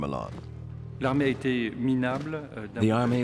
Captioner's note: speaks in foreign language